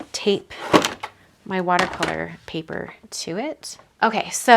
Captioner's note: objects knocking